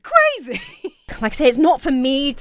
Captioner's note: laughs